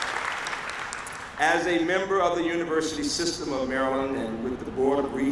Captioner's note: applause